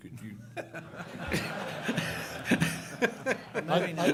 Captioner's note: laughter